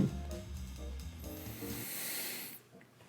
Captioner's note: deep breath in